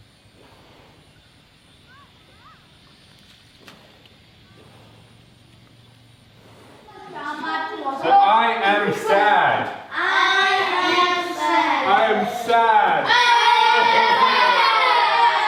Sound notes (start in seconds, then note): 6.8 kids chatter; 10.2 kids In Unison; 13.2 kids In Unison